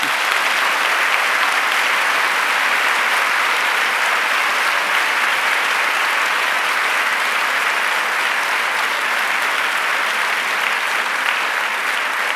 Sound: applause

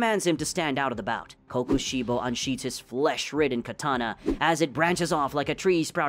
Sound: fast/explanatory

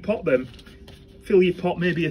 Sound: soil shuffling

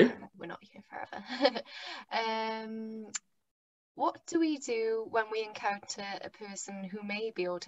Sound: laughter

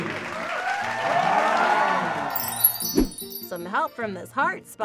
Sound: audience applauds; audience cheers

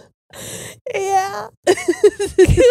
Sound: both laughing

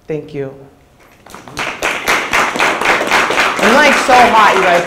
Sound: audience applauds

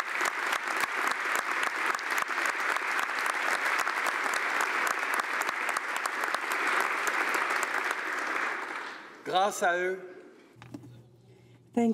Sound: applause

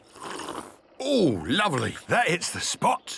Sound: sipping

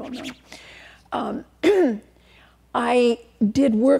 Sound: clears throat

